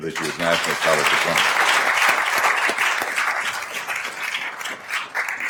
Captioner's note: attendees applauding